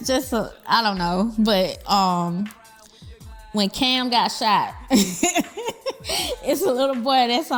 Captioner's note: laughs